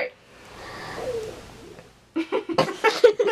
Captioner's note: stomach grumbles